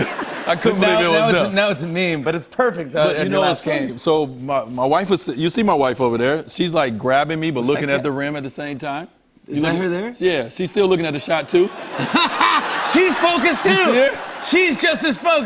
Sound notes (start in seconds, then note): 11.8 laughs